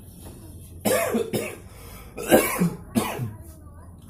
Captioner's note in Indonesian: suara orang batuk